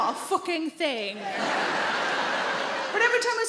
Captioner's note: audience laughing